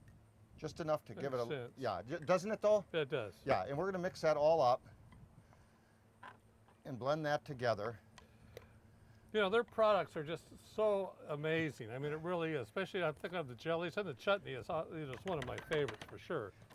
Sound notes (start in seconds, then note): none